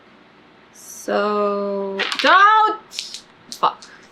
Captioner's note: die clatters on floor